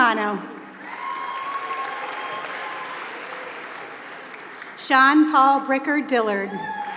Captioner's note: applause